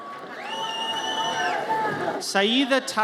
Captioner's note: audience cheers